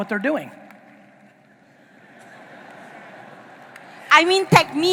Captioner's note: audience laughing